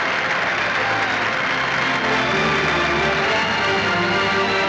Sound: instrumental music; all cheering

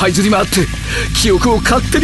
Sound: electrical sounds

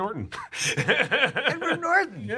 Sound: laughs

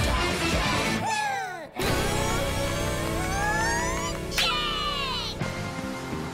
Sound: cheering

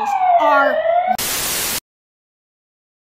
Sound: sirens approaching; static

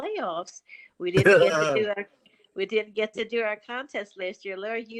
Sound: laughter

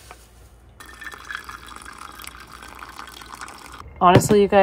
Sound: water sloshing

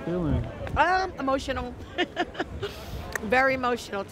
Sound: laughs

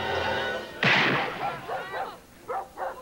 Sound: gunshot

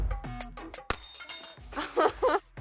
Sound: clink, laughter

